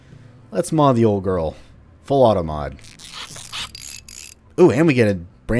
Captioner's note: tinkering noises